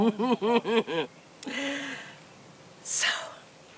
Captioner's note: chuckles